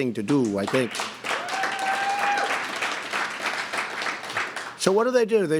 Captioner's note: applause